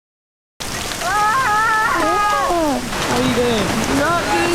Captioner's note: screams